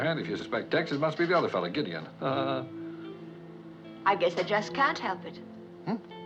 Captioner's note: chuckles